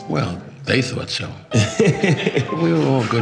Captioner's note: laughing